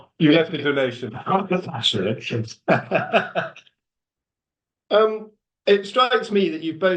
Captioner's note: laughs